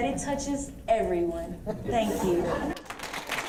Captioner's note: audience laughs; applause